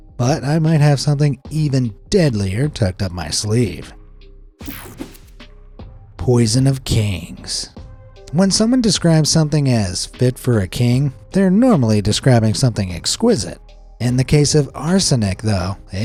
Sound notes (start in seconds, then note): 4.4 mellow music; 4.6 graphic whooshes